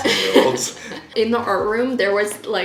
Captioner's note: both laughing